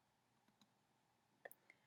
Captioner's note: clicking sound